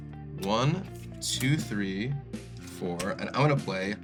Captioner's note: counting